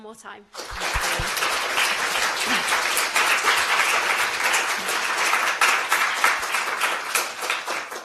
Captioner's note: applause